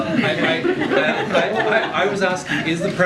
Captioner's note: laughter